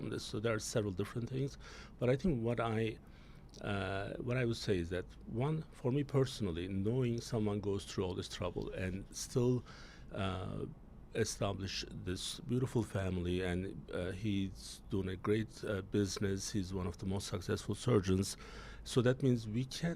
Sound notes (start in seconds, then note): none